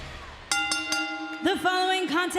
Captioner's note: bell dinging